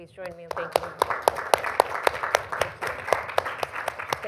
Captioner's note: audience laughing